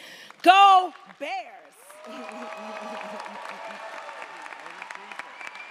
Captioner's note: audience applauds & cheers